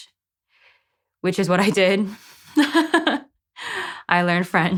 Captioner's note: laughs